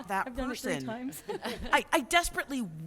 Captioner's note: laughter